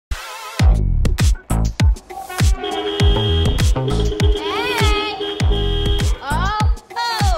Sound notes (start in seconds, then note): 2.1 car honking repeatedly; 6.2 upbeat music playing